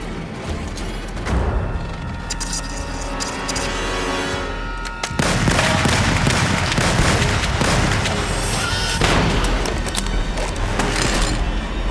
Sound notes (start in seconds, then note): 5.1 gunshots blasting; 9.1 metal clanging